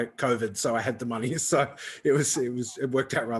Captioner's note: laughs